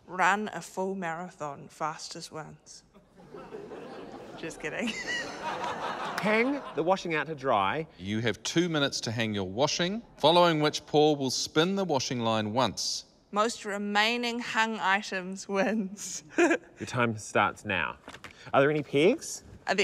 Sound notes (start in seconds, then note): 15.7 giggles